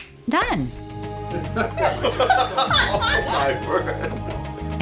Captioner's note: laughing